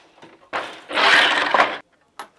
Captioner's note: noise of shuttle moving